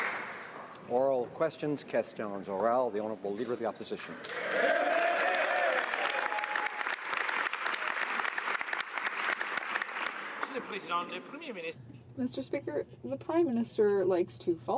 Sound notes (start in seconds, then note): 4.6 speaking French; 7.9 some Applause